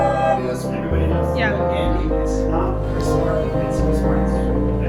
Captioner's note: adventurers cheering; chatting